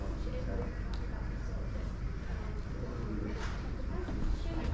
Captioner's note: background chatter